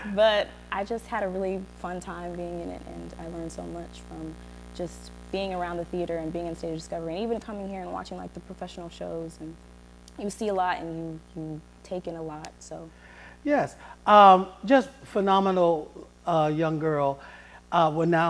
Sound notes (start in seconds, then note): none